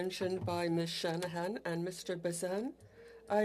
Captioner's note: speaking French